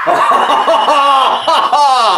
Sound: joyful laugh

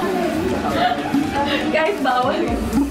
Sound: laughs

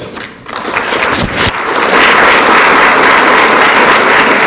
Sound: audience applauds

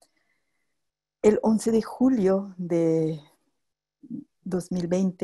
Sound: spanish speech

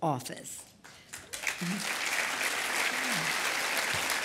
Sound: applause

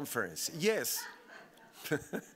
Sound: audience laughing; laughing

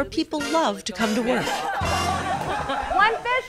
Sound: laughter

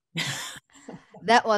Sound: laughing

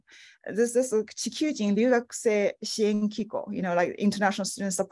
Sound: speaking foreign language

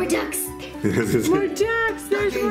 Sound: laughs

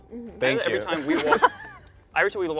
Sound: laughing

